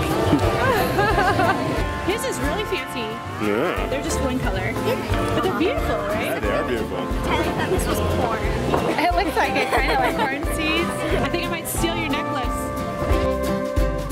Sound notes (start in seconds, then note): 0.2 laughs; 8.8 laughs